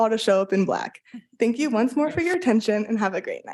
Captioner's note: attendees chuckling